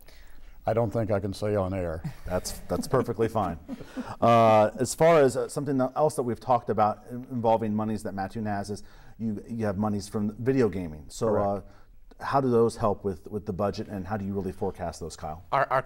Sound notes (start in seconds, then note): 2.1 laughing